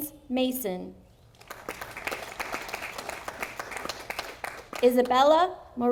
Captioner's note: audience applauding